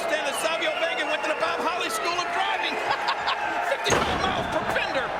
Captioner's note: laughing